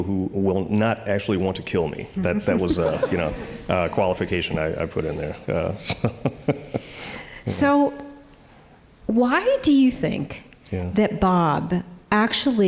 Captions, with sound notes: who will not actually want to kill me, (audience chuckling) that was a qualification I put in there, so. (chuckling) - So why do you think that Bob actually